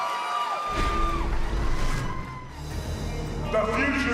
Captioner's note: cheers & applause